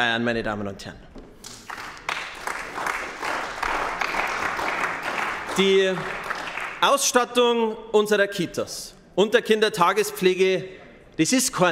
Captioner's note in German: Beifall bei den GRÜNEN